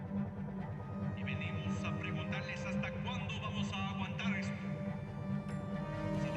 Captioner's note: speaking in foreign language